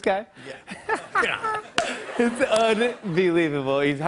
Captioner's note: laughs